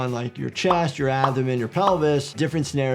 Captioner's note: graphics pop; graphic pops